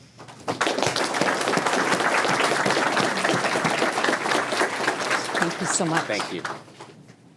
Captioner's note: applause